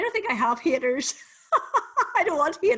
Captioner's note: laughs